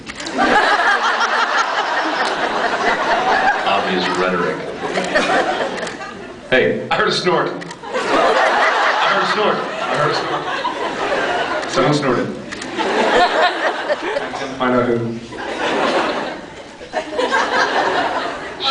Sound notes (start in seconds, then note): 0.2 laughs; 4.6 scattered laughs; 7.9 laughs; 15.4 scattered laughs